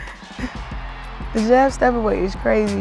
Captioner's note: crowd cheering